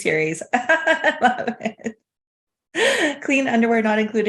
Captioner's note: laughing